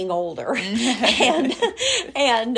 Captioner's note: laugh